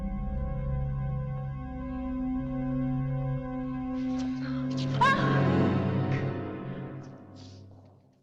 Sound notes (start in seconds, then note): 4.1 Julie gasping